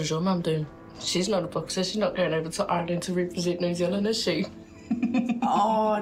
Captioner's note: giggles